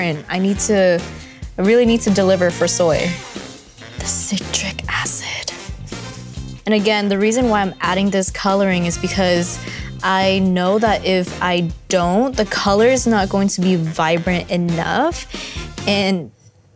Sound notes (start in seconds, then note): 5.7 whispers